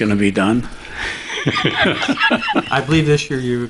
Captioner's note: laughing